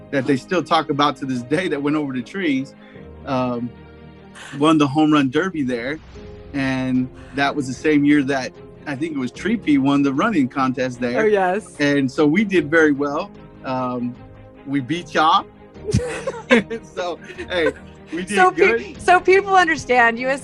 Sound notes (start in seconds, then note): 17.0 laughing